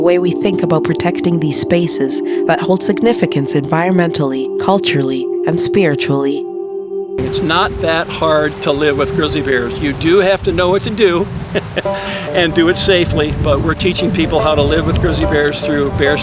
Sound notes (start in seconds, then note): 11.5 chuckles